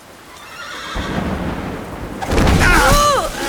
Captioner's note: horse whinnies; James and Lily yelling in pain